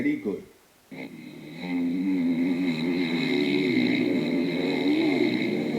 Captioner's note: dirt bike engines